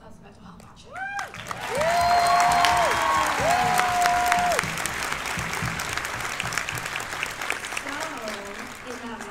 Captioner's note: cheers and applause